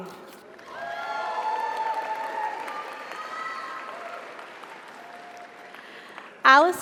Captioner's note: audience applauds; audience cheers